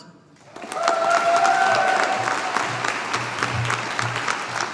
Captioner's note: audience applauding